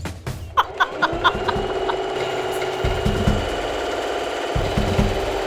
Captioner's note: laughing; sewing machine whirring